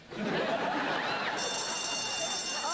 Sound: bell rings

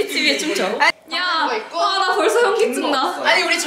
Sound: laughing; laughing

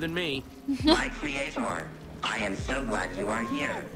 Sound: Sabrina laughs

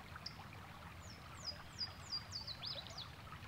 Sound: birds chirping

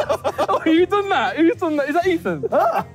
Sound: group laughing

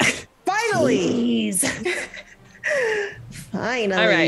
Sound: laugh

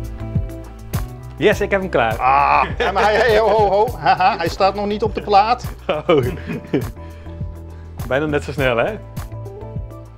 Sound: laughs

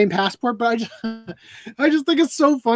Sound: laughs

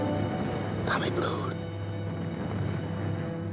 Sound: whispering

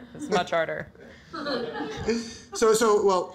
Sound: audience laughter

